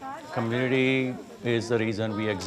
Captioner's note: temple visitors speaking to each other